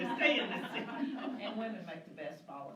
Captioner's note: laughter